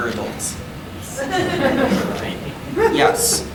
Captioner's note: audience laughing